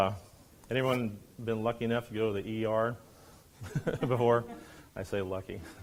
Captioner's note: laughs